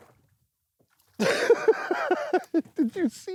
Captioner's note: laughs